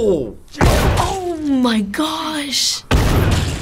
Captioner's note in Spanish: gran explosion; gran explosion